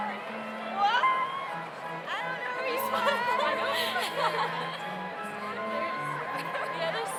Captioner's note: laughs